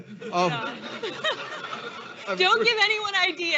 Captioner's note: all laughing